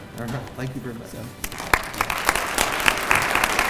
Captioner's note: applause